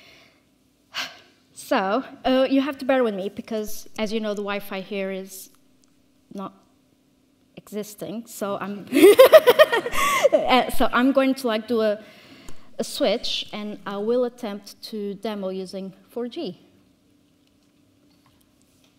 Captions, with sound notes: (exhales sharply) So you have to bear with me because as you know, the Wi-Fi here is not existing. (all chuckling) So I'm going to like do a switch and I will attempt to demo using 4G.